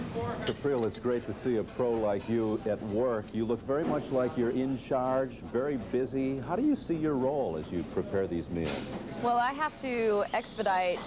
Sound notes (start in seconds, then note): none